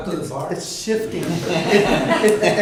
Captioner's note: laughter